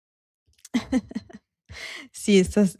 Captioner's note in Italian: risate